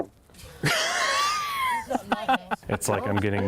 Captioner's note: laughing